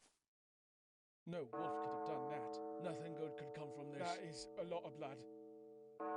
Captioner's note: crowd murmerings; bells ringing